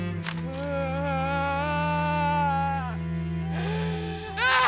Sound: lover sobbing

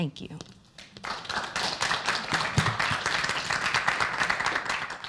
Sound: applause

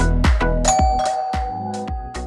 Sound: doorbell

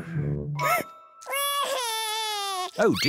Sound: sobs

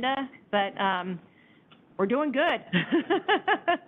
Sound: laughs

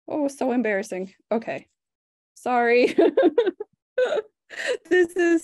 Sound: laughs

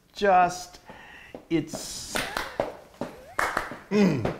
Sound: feet tapping; hands clapping; laughing

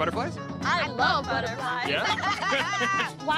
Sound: laughter

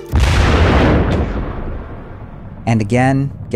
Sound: loud blast

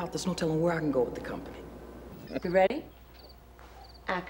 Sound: none

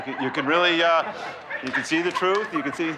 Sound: laughter

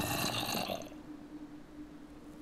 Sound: zombie moans

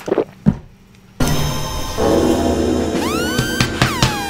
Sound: slurping; dramatic music; hands slapping; warning tone blaring

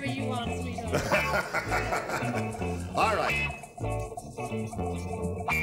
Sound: laughs

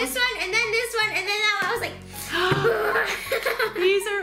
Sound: frustrated groan

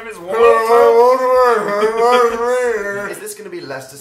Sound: strange voice

